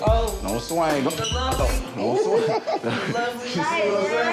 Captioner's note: people speaking indistinct